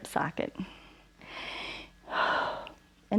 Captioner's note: inhales and exhales